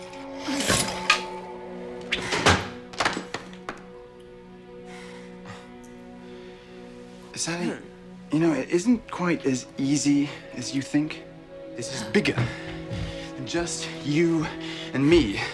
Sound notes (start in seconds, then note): 2.0 thudding